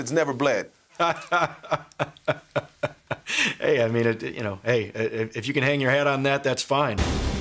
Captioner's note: laughs